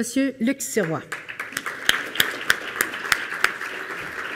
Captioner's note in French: Applaudissements